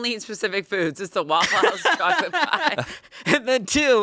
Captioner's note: laughs